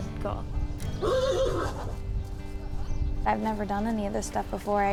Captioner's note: horse neighs